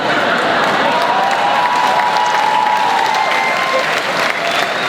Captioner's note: crowd laughs and cheers